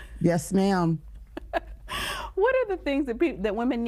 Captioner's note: chuckling